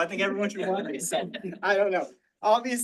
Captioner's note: all laughing